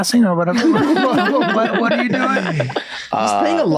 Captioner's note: all laugh